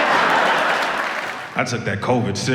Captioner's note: audience laughs